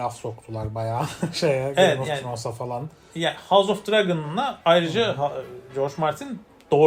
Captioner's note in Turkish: kahkaha